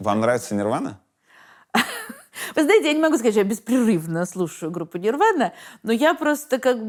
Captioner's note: laughs